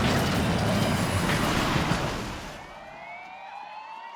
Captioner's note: sirens blaring